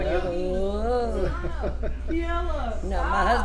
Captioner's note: laughs